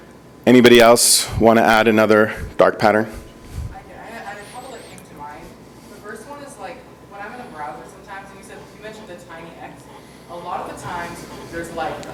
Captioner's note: speaking off microphone